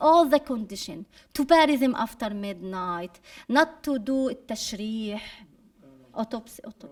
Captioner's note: speaking arabic